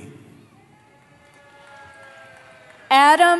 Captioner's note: cheering